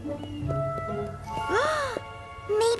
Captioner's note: gasp